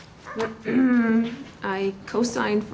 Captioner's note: clears throat